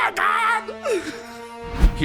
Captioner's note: laughs